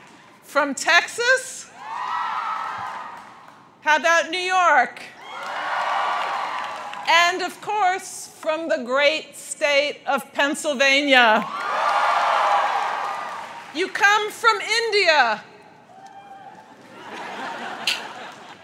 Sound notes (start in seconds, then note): 0.0 crowd cheers; 1.7 crowd cheers; 5.2 crowd cheers; 11.4 crowd cheers; 16.4 crowd cheers and laughs